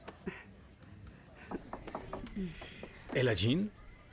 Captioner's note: knocking